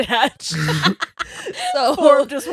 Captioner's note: laughing